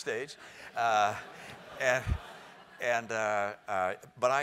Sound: laugh

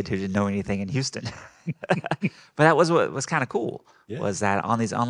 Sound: group laughing

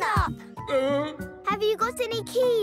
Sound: groaning

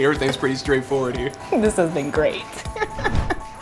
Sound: laughs

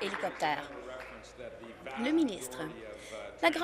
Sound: applause

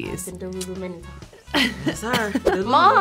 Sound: laughs

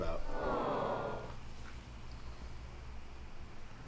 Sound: chorus of "aww"s

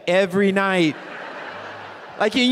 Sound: audience laughing

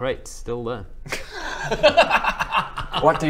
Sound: anticlimactic laughter

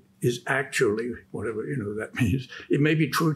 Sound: chuckles

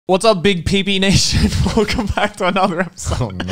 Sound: laughs

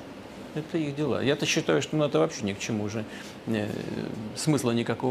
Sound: Putin speaking in Russian

